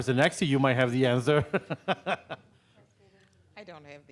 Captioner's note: laughing